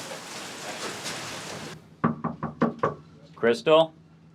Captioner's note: knocking